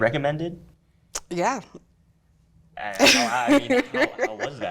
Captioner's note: giggles